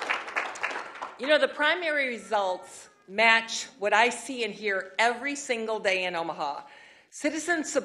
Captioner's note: applause